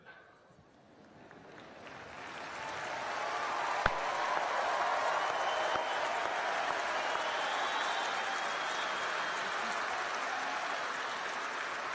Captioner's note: cheering and applause